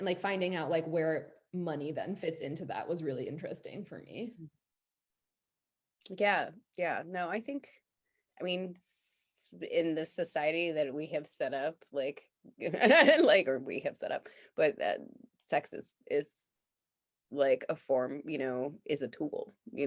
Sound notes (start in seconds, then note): 12.8 laughs